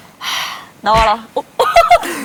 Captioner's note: slap!